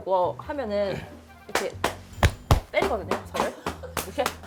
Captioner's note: slap Slap Pat Pat